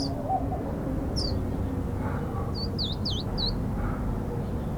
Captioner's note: birds chirping